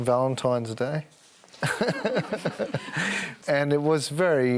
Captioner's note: laughs